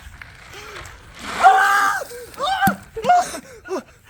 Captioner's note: yelling